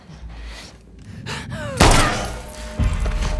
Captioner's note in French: bang